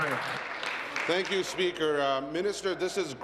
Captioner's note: applause